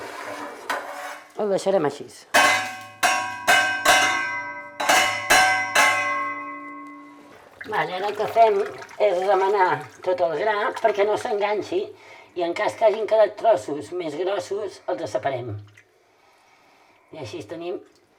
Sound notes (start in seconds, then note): 2.3 metallic clanging